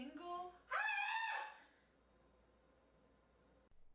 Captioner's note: screaming